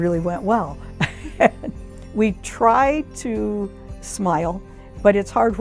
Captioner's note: laughs